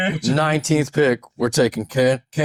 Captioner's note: laughing